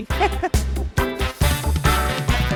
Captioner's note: laughs